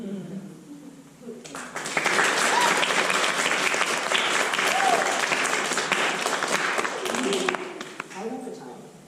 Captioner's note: applause